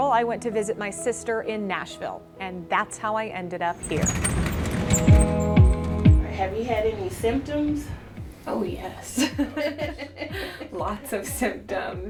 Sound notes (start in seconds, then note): 3.7 cart rolling; 9.1 laughter